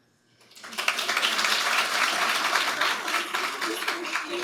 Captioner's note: audience applauding